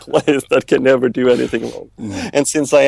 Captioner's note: laughs